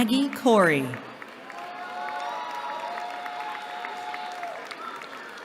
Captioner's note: cheering